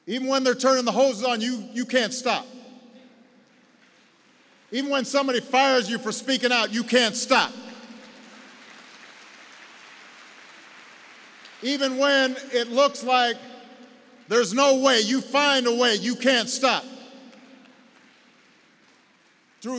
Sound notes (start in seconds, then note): 3.4 applause; 9.4 applause; 17.4 applause